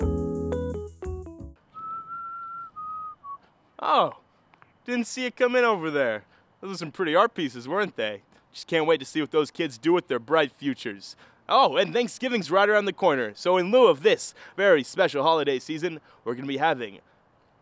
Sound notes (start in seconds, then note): 1.6 whistling